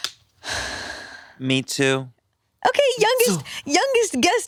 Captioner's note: sighs